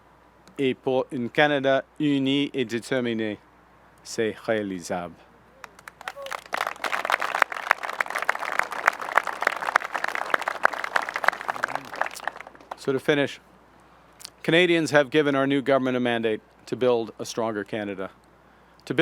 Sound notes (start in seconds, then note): 5.6 applause